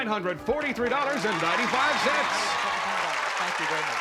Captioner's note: applause